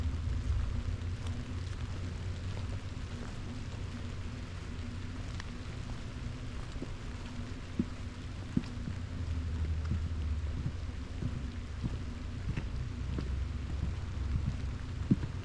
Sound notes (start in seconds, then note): 0.0 rain on wooden boardwalk; 1.9 footsteps on wet wood; 2.8 forest rain on autumn leaves